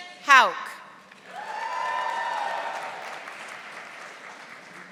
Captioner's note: audience applauding